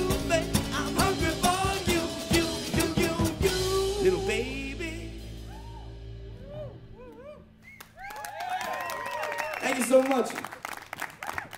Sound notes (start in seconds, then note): 7.7 applause